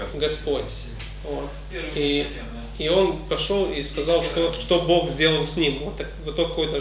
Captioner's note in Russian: none